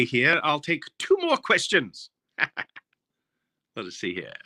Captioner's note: laughing